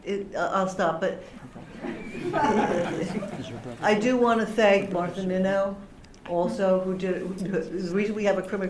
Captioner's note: laughter